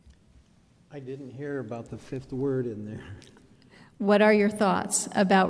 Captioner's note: chuckles